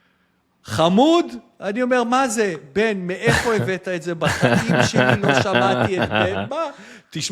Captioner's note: laughter